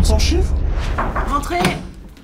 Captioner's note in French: Toc toc